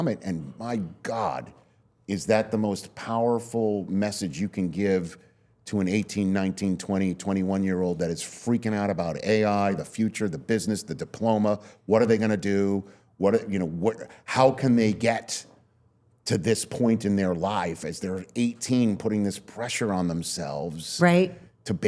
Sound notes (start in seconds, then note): none